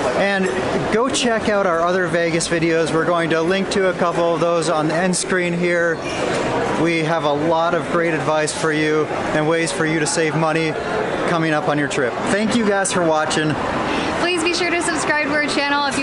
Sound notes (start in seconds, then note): none